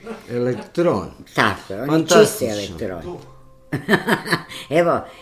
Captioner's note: laughter; laughter